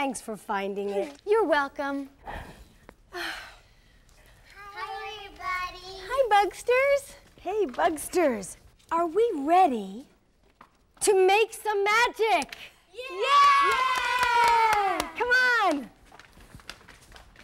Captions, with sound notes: Thanks for finding it. - You're welcome. (sighing) - Hi, everybody! - Hi, Buggsters. - Hey Buggsters, are we ready... To make some magic? (cheering) Come on!